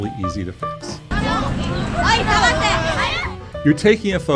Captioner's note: people chattering